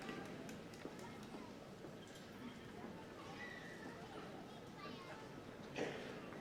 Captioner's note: applause